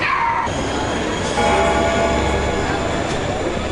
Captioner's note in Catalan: Sonada del timbre